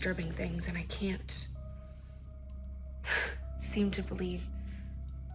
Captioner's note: sighs